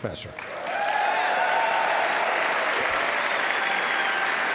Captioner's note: cheering, clapping